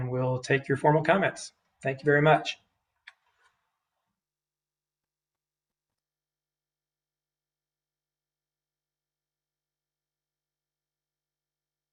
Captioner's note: silence